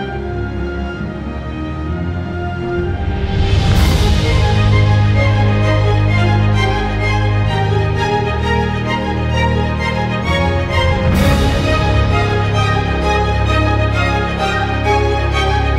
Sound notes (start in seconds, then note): none